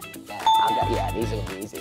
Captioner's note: bell sound